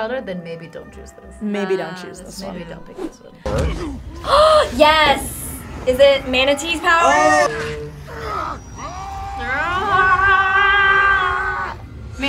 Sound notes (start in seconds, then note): 4.0 gasps; 8.0 both scream; 9.0 Thanos screams